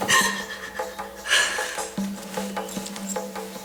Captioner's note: crying